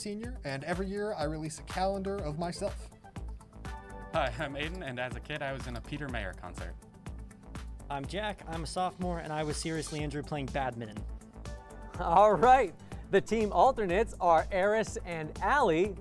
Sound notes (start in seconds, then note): none